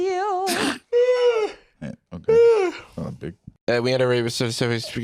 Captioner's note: yawns